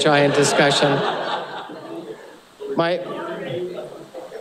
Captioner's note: laughter; away from microphone